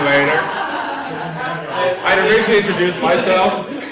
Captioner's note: laugh